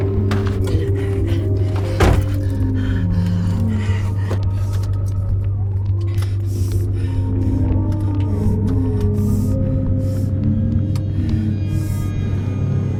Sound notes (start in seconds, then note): 2.1 closes car door; 6.1 breathing heavily